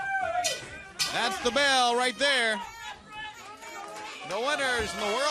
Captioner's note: bell ringing; crowd chatter